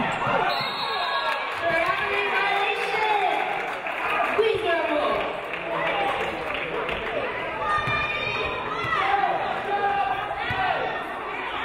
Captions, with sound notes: (referee blows whistle) Traveling violation. Ashley Drumgole.